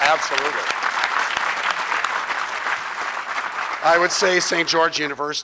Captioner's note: audience clapping